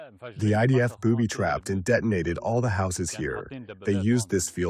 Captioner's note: through translator